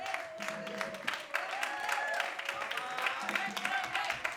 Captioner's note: audience claps